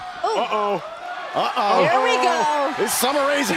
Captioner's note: crowd chatter